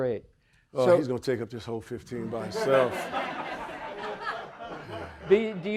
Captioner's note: audience laughing